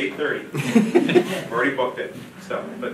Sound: audience laughing

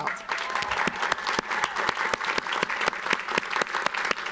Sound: audience applauds

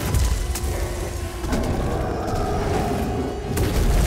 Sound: howl

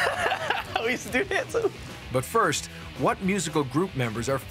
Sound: laughs

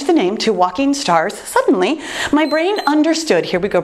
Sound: timer beeps

